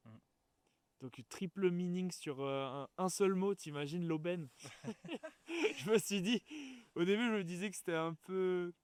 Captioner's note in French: rires